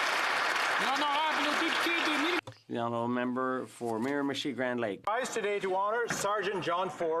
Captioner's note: some Applause